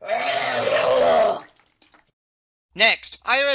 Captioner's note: sound of man puking